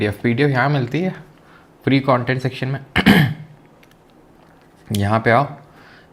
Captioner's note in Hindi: गला साफ़ करने की आवाज़